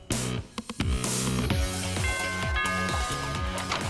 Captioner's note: doorbell rings